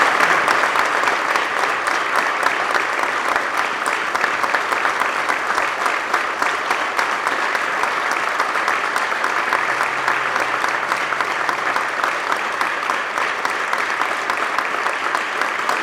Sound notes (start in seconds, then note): 2.8 applause